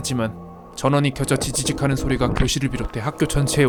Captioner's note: but the sound of static from the speaker